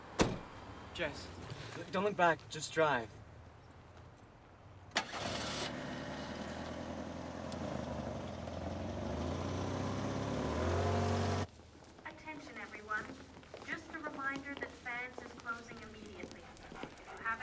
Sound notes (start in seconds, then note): 0.1 car door bangs; 4.9 car engine whirring